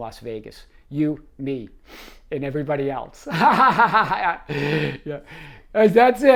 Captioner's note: laughs